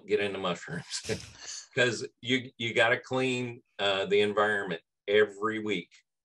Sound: laugh

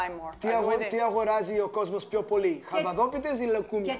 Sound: speaking Greek

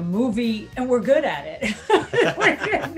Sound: laughing

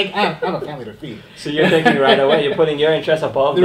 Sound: laughing

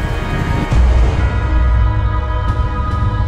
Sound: explosion

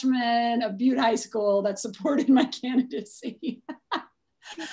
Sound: laughs

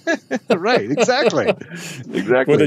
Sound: both laugh

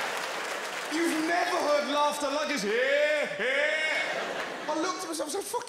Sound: laughs obnoxiously

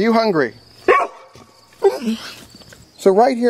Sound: dog barking

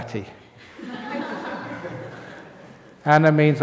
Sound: laughter

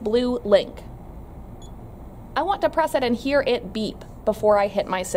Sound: beeping noise

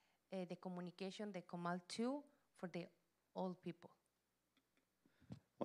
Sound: Spanish language

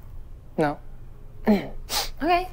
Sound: sniffs

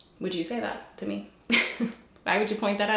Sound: giggles

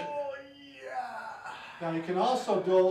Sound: groans

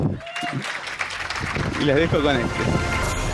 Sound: applause

